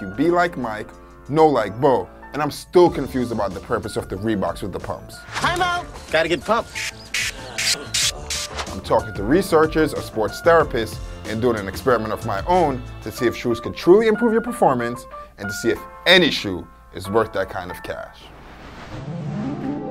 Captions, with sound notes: be like Mike, know like Bo and I'm still confused about the purpose of the Reebox with the pumps. - Time out! Gotta get pumped (pumping sound) - I'm talking to researches, a sports therapist, and doing an experiment of my own to see if shoes can truly improve your performance and to see if any shoe is worth that kind of cash.